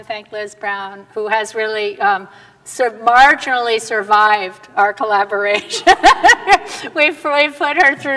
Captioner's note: laughter